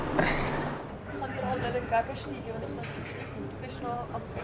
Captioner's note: in Swiss German